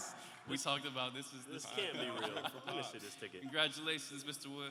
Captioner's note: laughter